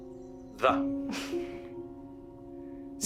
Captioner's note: giggles gently